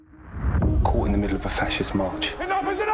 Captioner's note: male Voice